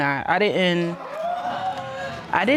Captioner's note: audience gasps